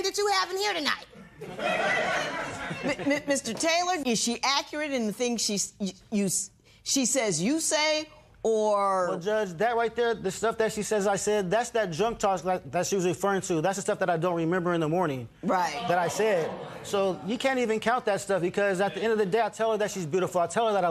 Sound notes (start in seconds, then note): 1.3 laughter